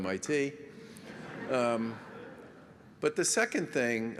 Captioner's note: laughter